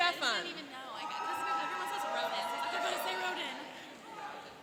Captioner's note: cheering and applauding